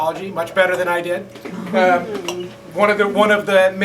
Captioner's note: laughter